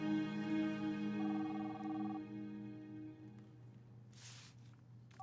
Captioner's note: line trilling